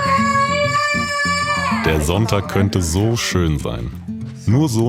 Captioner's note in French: Crier